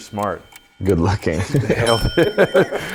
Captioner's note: laughs